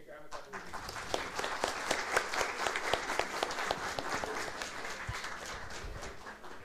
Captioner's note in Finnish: Aplodeja